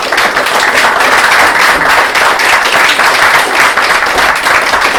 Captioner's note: applause